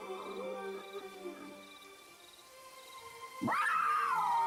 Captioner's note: wild animal growl; wild animal screech